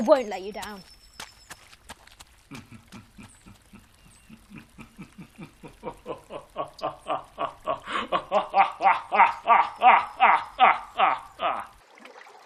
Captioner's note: Dobbin laughs; ducks quack on a lake. Gentle gentle guitar music